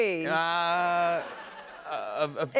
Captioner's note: laughter